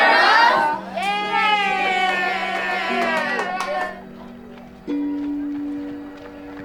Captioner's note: cheering